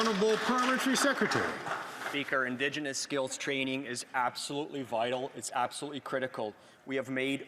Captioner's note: some Applause